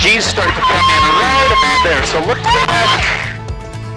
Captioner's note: screaming